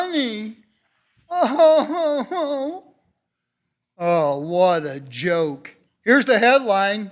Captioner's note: mimics crying